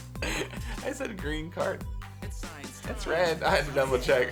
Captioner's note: chuckles